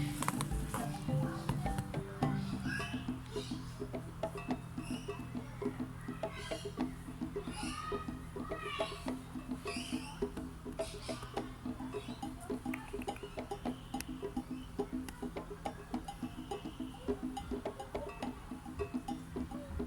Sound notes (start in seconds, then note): 12.6 clicks tongue; 14.6 meerkat hums